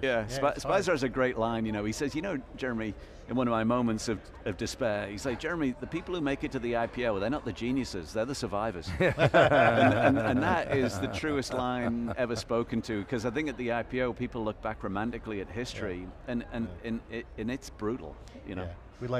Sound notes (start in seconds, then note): 9.0 laughing